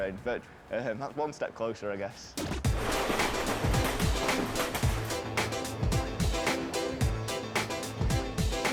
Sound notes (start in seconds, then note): 2.4 upbeat music; 2.6 train rumbling